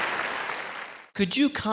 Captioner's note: audience cheering and applause